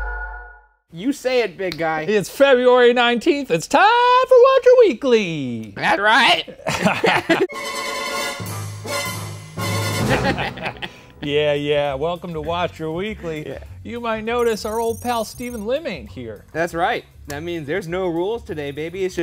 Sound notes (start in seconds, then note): 6.4 laughing; 7.5 dramatic music; 10.1 laughing